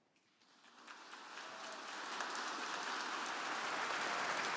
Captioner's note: audience applauding